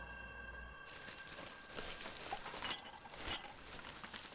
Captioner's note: garbage rustling